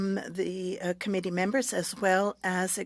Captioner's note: speaking French